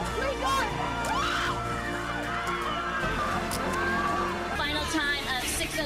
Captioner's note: cheering